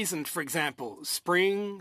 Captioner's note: speaking in French